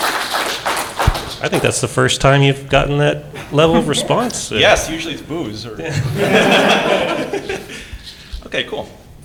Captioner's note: applause; laugh